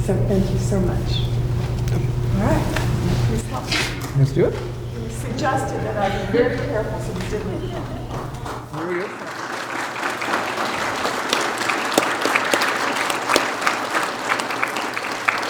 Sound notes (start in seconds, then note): 7.7 speaks faintly; 9.6 audience applauding